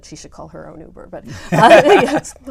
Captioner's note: laugh